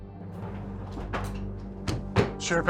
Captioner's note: footsteps approach, door opens